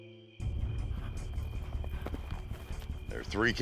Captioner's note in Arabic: حصان يقترب